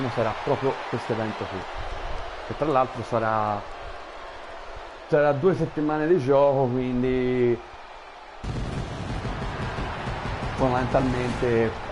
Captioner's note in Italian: Applauso